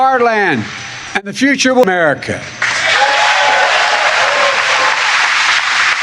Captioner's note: cheering and applause